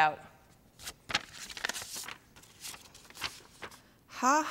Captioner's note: paper rustling